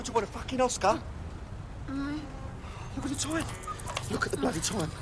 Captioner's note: moaning